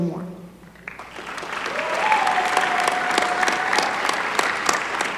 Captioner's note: applause